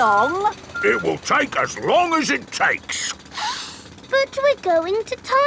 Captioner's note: sniffs